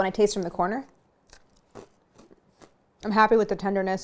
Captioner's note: crunching